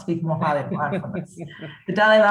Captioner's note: chuckles